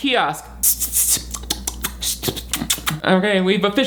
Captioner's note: clicking tongue